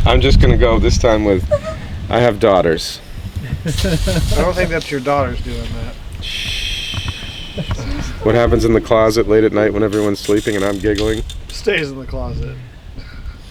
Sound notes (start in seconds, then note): 3.4 laughs